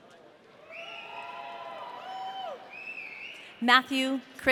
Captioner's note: audience cheering